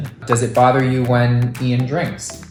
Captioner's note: pop noise